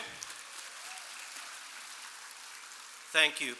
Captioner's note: applause